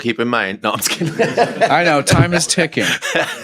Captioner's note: laughter